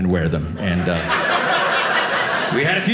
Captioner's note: audience laughing